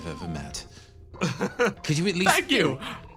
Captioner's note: laugh